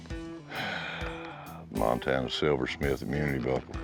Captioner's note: exhales